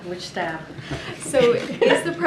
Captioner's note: laughter